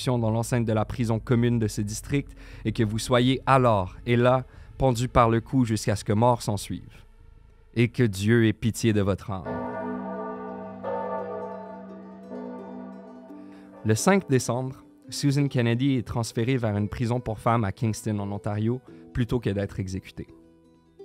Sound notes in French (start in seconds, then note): 9.4 tintement de cloches